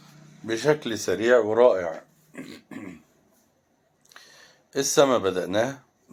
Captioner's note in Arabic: تنحنُح